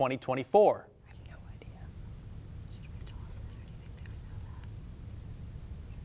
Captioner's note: whispering